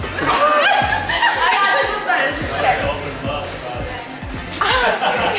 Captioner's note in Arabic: الناس يضحكون